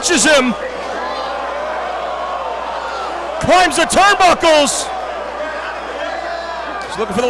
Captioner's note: applause